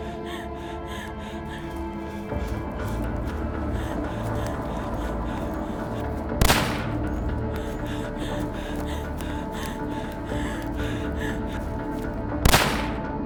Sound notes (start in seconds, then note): 3.0 suspenseful music; 6.4 gun firing